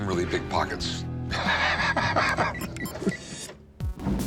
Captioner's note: laughs